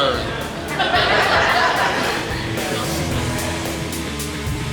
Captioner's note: laughing; bouncy upbeat music